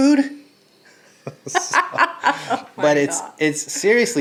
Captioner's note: laughing